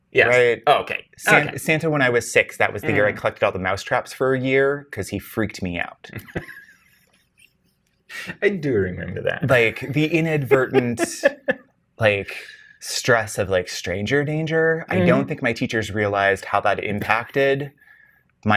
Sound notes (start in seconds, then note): 6.2 laughs